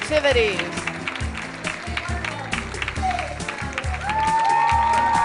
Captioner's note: cheers and applause